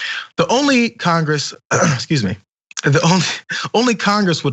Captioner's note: cough